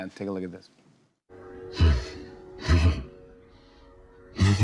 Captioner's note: chuckles; laughs